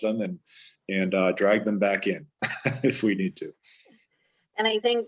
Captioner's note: laughs